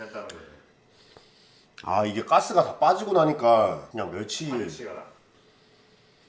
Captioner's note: Korean